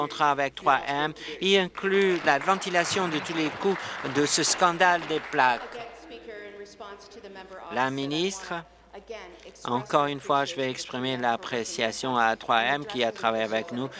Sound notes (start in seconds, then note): 5.3 applause